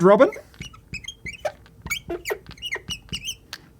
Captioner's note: chalk chirping